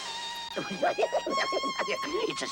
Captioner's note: giggling